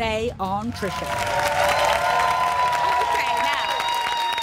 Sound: applause

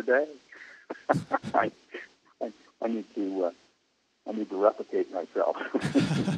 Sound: laughs

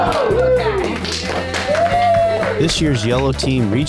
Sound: students applauding

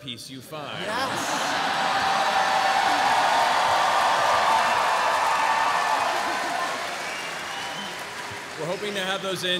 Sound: cheering

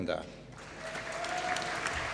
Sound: applause

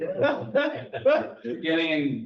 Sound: laughs

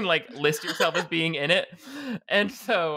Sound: laughing

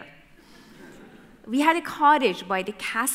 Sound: audience laughter

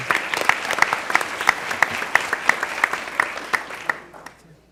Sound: applause

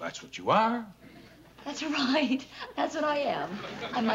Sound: chuckles

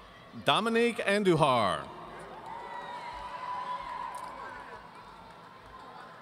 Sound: audience cheering

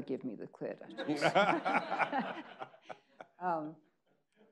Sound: people laughing

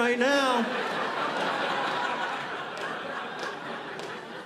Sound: audience laughing

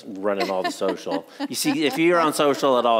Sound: laughs

